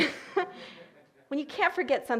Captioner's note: audience laughing